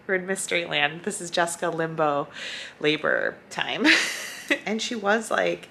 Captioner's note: laughs